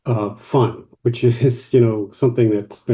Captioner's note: laughs